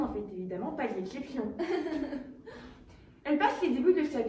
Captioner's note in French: rires